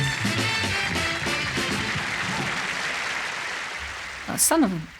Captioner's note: crowd applause